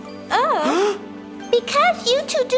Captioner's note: gasps